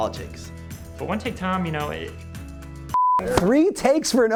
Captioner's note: beep